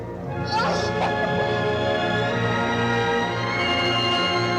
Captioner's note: Klara grunting